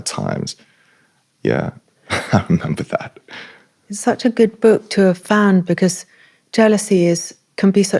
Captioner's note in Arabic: ضحك